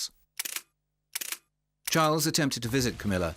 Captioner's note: camera clicking